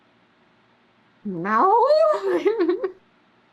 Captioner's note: laughs